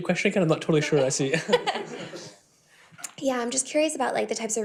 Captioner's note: laughing